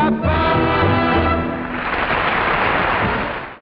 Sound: audience applauding

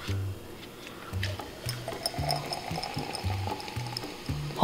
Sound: fizzing

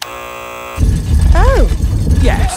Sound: buzzer sounds

